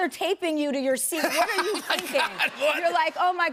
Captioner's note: laughter